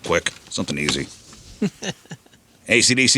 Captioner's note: laughing